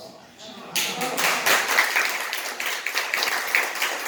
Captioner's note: audience applause